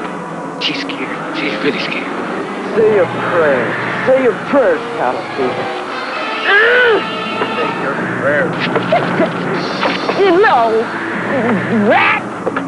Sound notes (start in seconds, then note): 6.1 grunting; 11.0 shouting